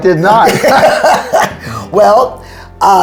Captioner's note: laughing